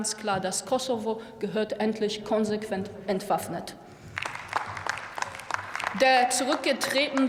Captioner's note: Applause from DIE LINKE